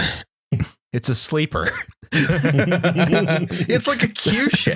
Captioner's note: laughter